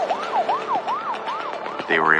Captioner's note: siren wailing